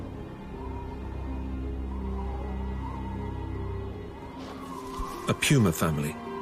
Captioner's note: wind blowing